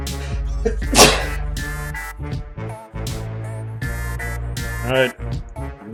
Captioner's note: sneezes